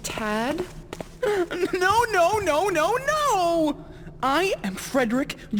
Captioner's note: sobbing